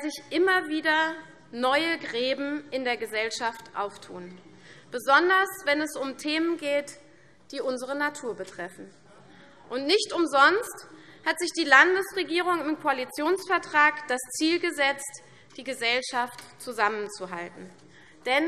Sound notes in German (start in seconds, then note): none